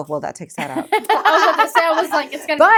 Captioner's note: laughing